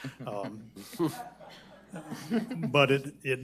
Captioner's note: audience laughs